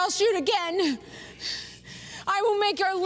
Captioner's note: breathing heavily